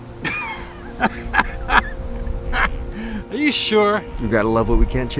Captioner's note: laughs